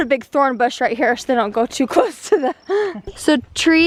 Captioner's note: laughing